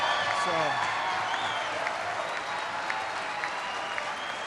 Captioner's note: applause